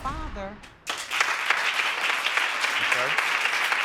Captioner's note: applause